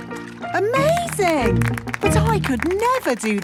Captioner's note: clapping